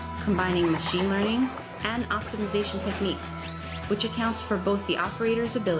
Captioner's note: electronic beeping and screeching; upbeat music